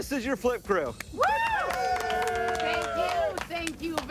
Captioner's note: cheering